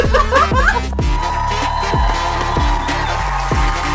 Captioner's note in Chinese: 欢呼与喝彩